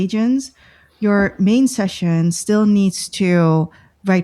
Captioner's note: breath; uh